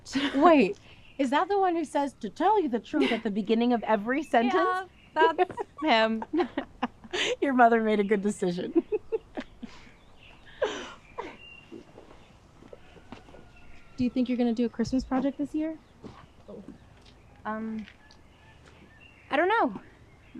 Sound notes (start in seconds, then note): 8.4 laughs